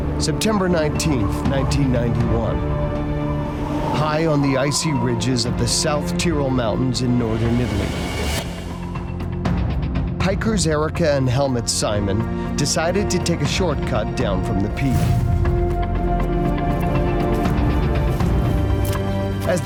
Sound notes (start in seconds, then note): 8.1 dramatic music; 8.1 wind whipping; 15.3 dramatic music begins